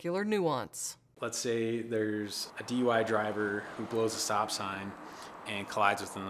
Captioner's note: sounds of vehicles driving on road